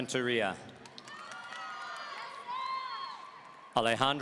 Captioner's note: audience cheering